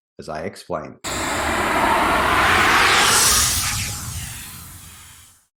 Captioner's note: screen design whooshes